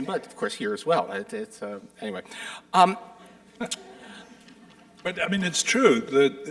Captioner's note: audience chuckling